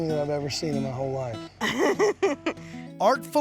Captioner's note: laughter